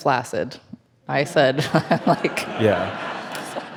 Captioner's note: speaks faintly